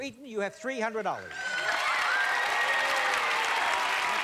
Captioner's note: cheers and applause